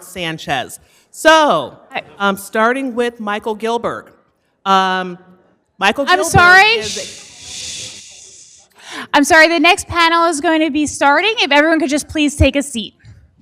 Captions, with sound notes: Sanchez. So I'm starting with Michael Gilbert. Michael-- --I'm sorry. [HUSH SOUND] I'm sorry. The next panel is going to be starting. If everyone could just please take a seat.